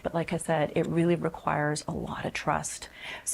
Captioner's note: none